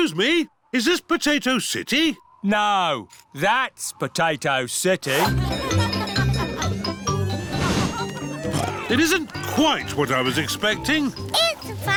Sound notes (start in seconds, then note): 5.2 cheerful jingling; 7.7 oinks